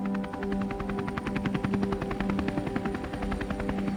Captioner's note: helicopter blades